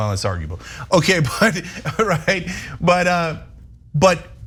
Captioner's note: laugh